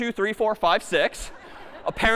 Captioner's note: laughter